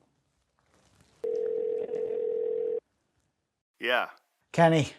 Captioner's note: outgoing call rings